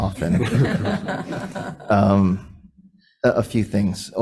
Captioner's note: people laughing